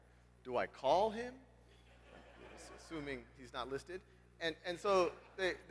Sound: laugh

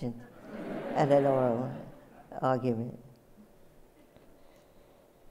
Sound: laughter

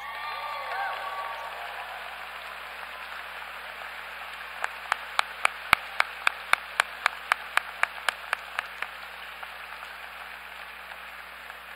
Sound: applause

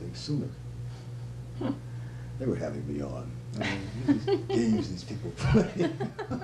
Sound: laughter

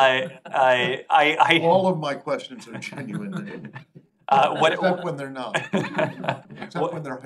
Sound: laughter

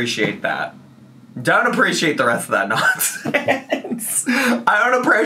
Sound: laughs

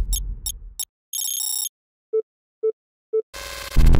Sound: beeping

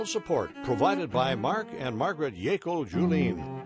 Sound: voiceover

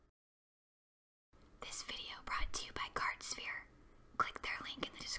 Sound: whispered

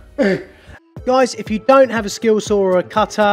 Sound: voiceover

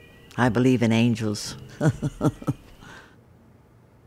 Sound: laughs

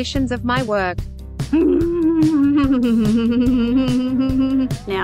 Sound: chuckling

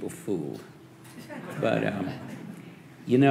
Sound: audience laughing

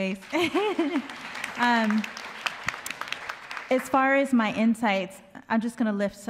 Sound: applause; laughs

